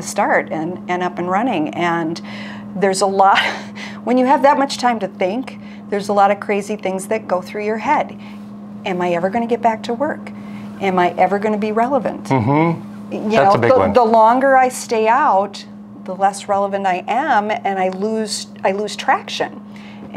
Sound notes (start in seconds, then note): 3.3 chuckles; 12.2 hums